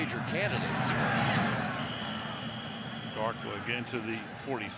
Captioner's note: pa announcement; onfield chatter